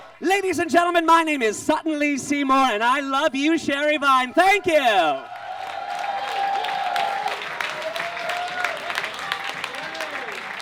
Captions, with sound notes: Ladies and gentlemen, my name is Sutton Lee Seymour, and I love you Sherry Vine. Thank you! [audience claps and cheers]